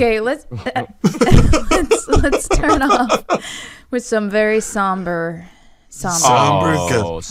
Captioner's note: laughs